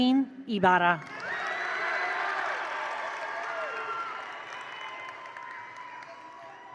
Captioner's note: attendees cheer; attendees applaud